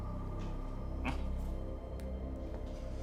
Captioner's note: grunts